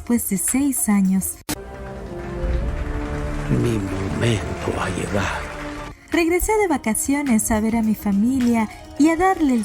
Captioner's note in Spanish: aplausos